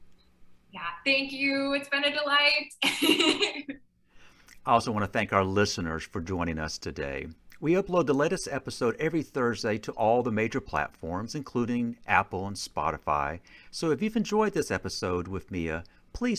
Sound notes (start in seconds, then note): 2.8 chuckling